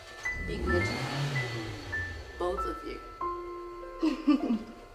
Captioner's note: car starts and revs loudly